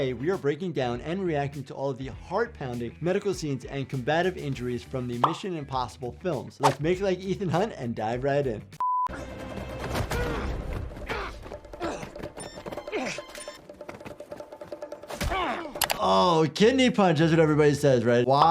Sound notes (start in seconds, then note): 8.8 TV beeping; 9.8 combatants grappling